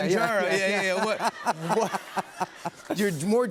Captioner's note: laughter